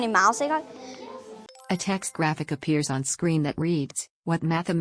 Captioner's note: chime